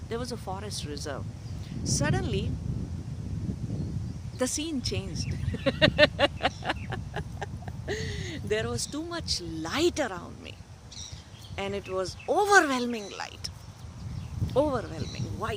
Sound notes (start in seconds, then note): 5.4 laughter